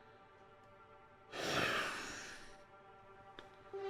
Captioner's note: Jamie sighs; dramatic music